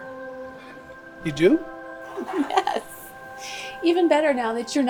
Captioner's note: laughs